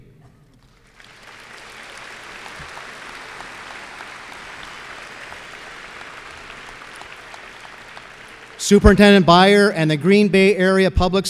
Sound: applause

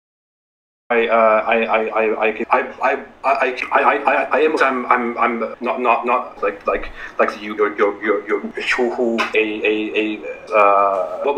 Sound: stammering

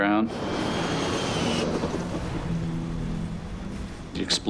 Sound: engine whistling; explosion booms

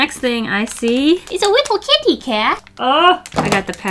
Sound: baby voice

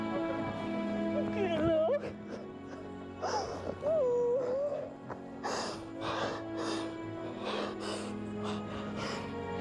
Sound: crying

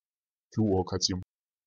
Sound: fast Pronunciation

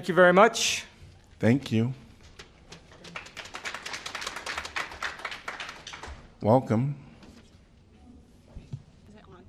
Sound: applause

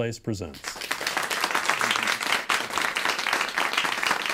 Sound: applause

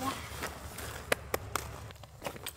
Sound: clap

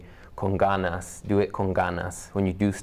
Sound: spanish

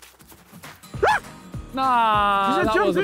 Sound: screaming

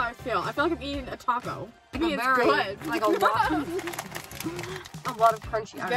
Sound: laughing

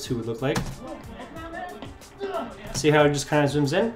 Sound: punching and grunting

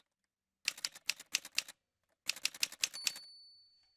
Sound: typewriter sounds

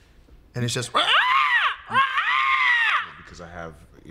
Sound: loudly cawing

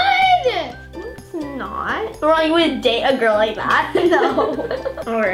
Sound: laughs

